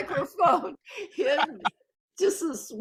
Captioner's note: laughing